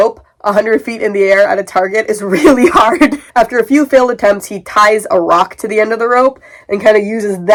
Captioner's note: laughing